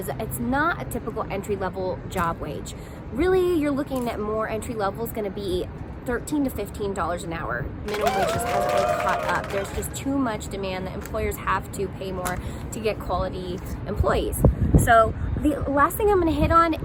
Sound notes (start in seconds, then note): 7.9 clapping sound effect